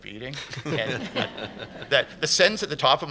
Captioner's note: laughter